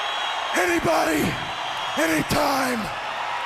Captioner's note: crowd cheering